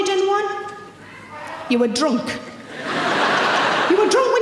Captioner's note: audience laughing